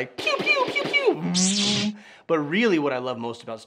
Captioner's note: lightsaber whooshing; laser guns firing